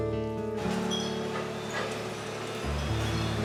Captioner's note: glass clatters; gentle acoustic music